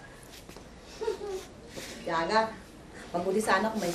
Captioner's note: Stella giggles